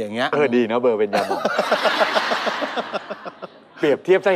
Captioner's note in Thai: หัวเราะ